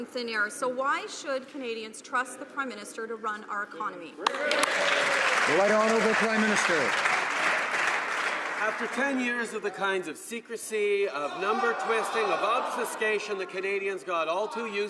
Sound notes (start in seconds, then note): 7.3 some Applause